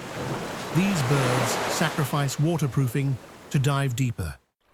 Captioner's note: wind blowing